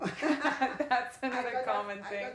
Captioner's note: laughs